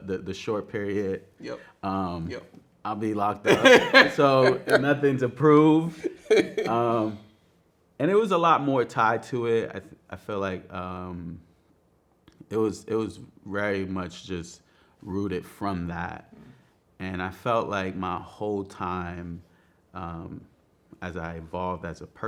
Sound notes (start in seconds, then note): 3.4 man laughing